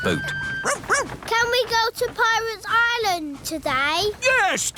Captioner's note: barks